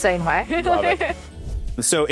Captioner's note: laughs